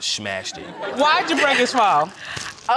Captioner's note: audience laughs; laughs